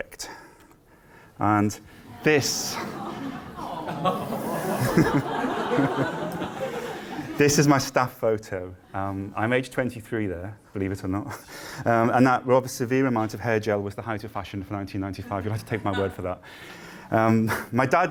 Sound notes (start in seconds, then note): 4.1 laughter and ‘ahhhhs’